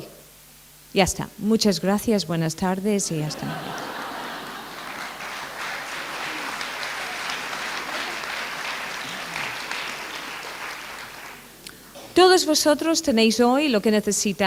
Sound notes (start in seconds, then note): 3.2 laughter; 5.9 applaude